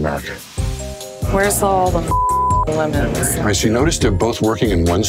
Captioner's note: beeps